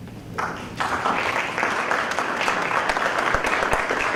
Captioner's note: applause